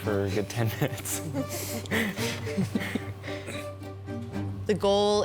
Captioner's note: participants laugh